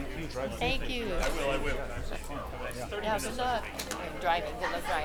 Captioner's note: panelists chattering